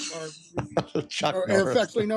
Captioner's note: laughing